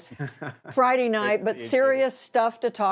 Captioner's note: laughter